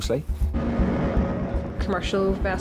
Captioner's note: motor hums